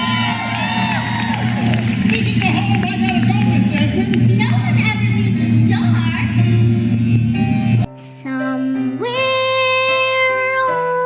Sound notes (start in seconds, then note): 0.0 audience cheering